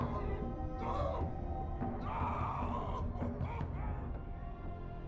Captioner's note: yelling